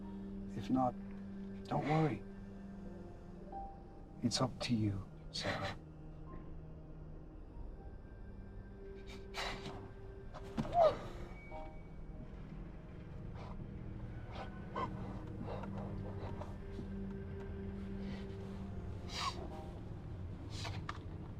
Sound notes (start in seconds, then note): 9.6 cloth rustles; 10.7 Sarah sobs